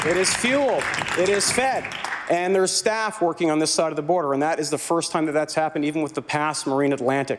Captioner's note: some Applause